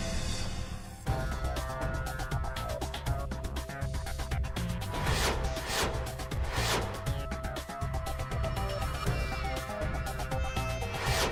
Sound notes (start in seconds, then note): 0.5 sophisticated music; 4.9 whizzing; 8.2 sophisticated music